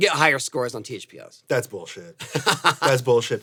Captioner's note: Tony laughs